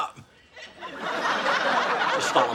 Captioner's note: audience laughs